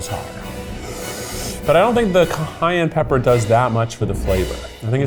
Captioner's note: inhales sharply